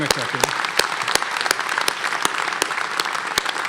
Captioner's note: applause